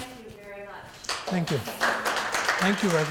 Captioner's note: audience applauding